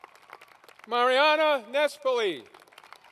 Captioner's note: applause